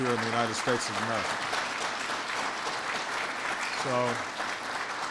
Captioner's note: applause